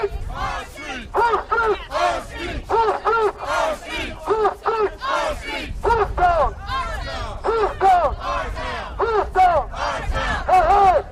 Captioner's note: chanting